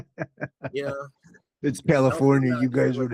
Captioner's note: all Laughing